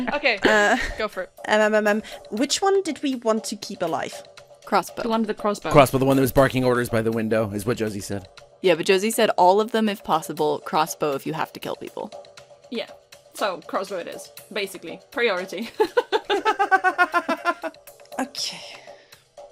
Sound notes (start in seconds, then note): 15.6 laughter